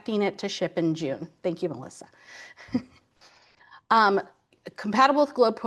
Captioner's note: chuckles